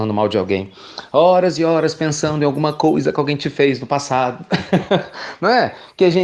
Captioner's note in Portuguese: Risos